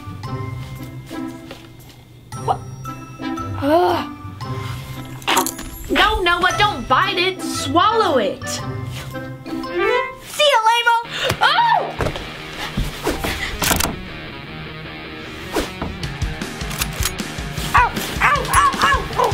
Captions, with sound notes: What? (grumbles) - No, Noah but don't bite it. Swallow it. - See ya lame-o! - Aah! (energetic rock music) (gun reloads) - Ow, ow, ow, ow!